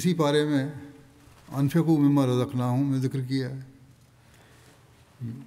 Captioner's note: Arabic